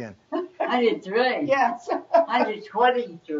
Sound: laughs; all laugh

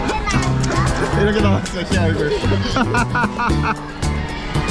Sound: laughing

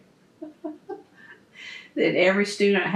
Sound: laughs

